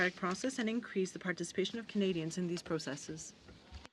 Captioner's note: speaking in french